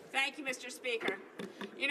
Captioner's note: speaking French